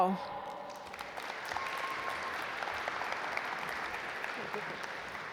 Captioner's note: audience applaud